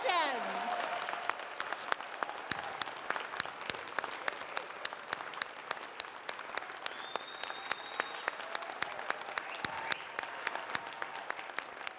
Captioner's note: applause